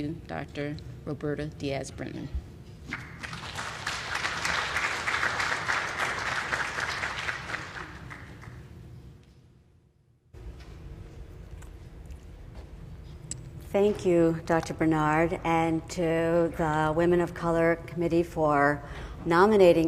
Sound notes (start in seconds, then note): 2.9 applause